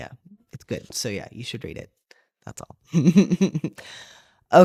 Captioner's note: laugh